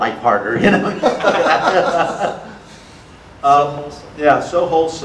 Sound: audience laughter

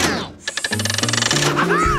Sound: laughing

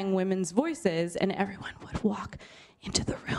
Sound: whispering

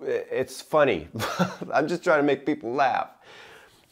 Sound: chuckling

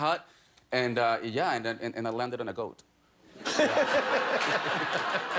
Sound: laughter

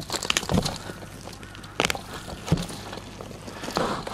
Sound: roots tearing

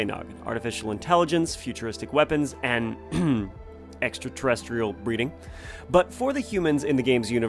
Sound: ahem

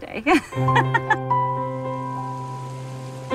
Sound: laughs

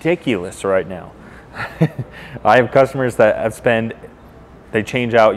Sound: laughs

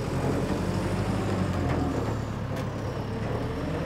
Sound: engine runs

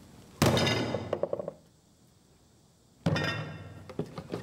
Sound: stamp banging

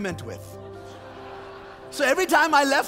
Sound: congregation laughs

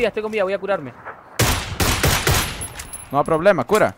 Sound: shooting

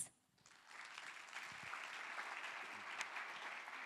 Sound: applause

